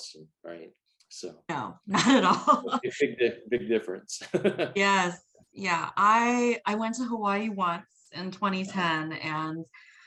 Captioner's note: laughs